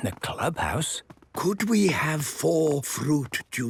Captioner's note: speaking quietly